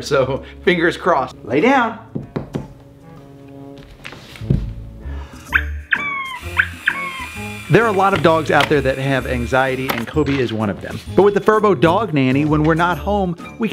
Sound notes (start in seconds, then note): 2.1 wooden tapping; 5.6 robotic squeaking; 6.3 mechanical whirring